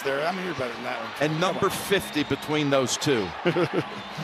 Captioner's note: Tony chuckling